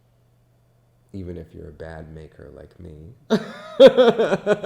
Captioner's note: laughs